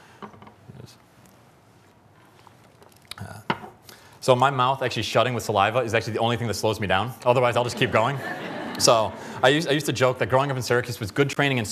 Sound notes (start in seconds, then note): 7.7 laughter